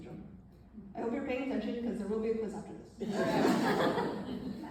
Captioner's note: laughter